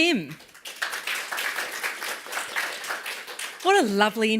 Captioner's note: applause